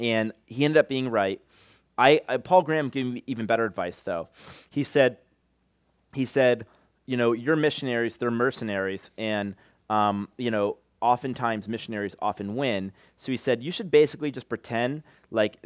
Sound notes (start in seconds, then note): none